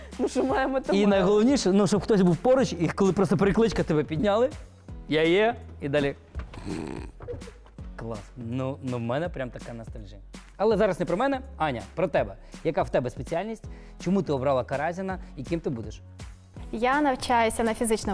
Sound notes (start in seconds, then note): 6.5 imitates snoring